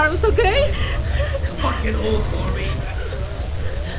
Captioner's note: Ryder grunts in pain